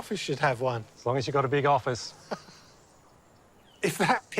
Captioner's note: laughs